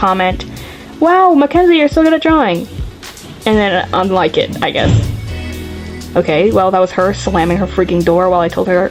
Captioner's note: thud